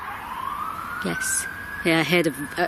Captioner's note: distant yell